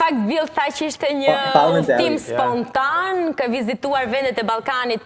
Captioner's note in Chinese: 阿爾巴尼亞語